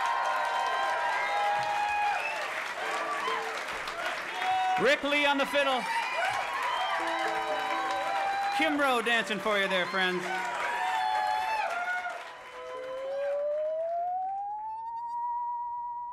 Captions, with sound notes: (crowd cheering) - Rick Lee on the fiddle. Kim Roe, dancing for you there, friends. (crowd cheering) (metallic wavering)